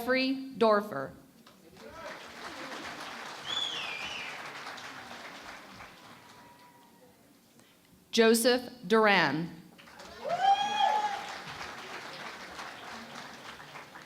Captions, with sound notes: Jeffrey Doerfer. [ Applause ] Joseph Duran. [ Cheering and Applause ]